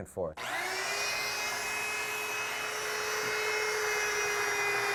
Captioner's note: belt turns on